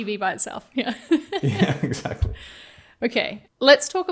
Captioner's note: chuckling